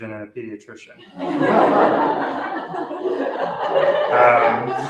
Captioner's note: laughter